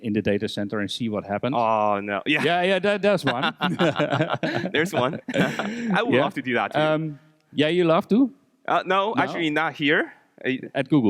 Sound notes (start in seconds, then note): 3.2 both laughing; 3.2 laughs